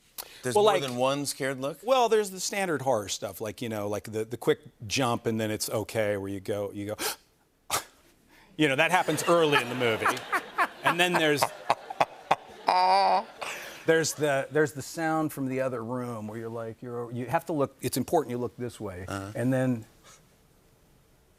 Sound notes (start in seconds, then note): 7.0 gasps; 12.1 laughter